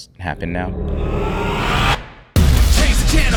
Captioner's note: graphics whooshing